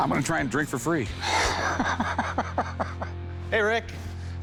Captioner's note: laughing